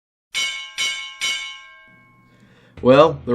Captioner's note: bell ringing